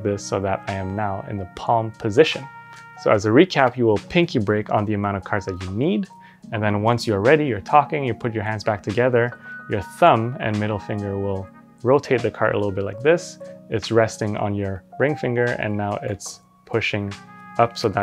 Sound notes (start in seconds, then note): none